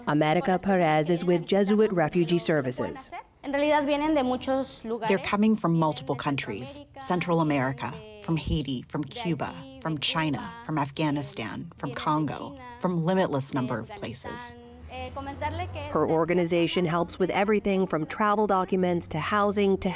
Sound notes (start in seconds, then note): 5.2 through translator